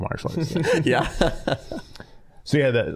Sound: all laughing

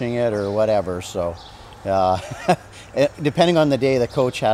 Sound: chuckles

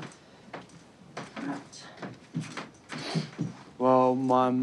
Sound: sniffs

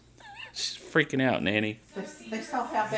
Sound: laughing

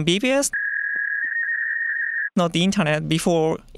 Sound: dial-up buzzing noise

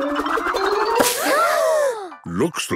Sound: all gasping

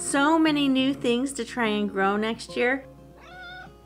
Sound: meow

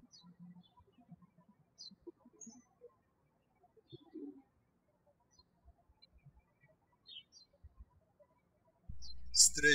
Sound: birds chirping

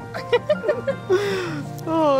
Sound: both laughing

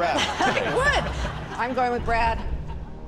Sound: chuckles

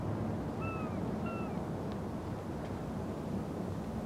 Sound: birds shrieking

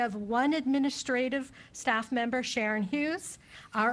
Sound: none

